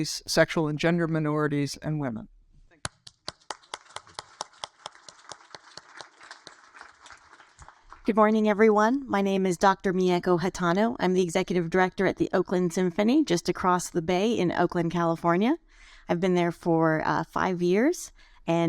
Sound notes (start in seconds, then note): 3.0 applauds; 3.2 audience applaud